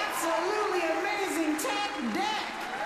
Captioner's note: applause